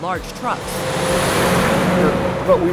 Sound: truck noise

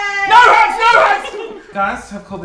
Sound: group giggling

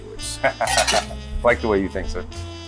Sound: laughs

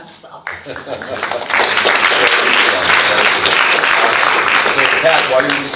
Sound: audience applauding

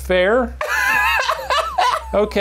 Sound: laughing

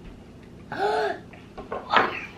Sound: gasps

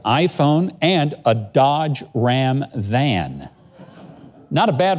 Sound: audience murmurs

